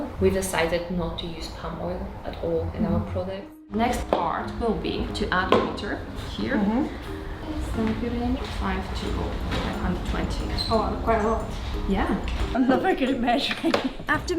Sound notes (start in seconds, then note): 6.4 pitcher clanking